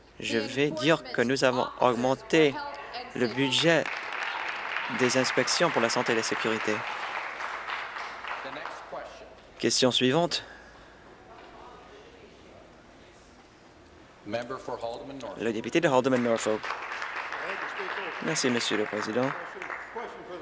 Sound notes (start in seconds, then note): 6.4 applause